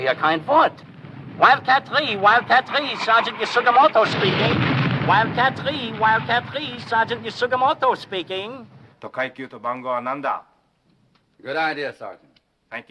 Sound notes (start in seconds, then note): 0.1 speaking foreign language; 4.3 bomb exploding; 9.1 speaking foreign language